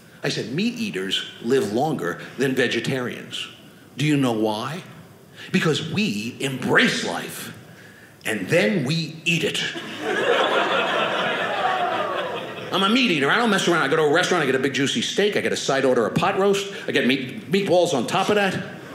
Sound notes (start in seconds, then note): 9.7 audience laughing